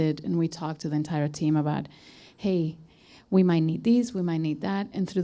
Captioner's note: none